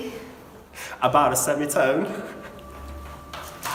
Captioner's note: laughs